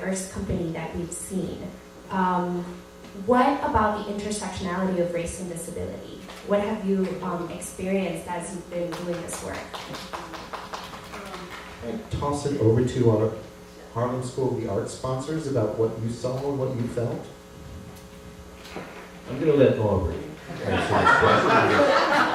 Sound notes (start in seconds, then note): 8.9 applause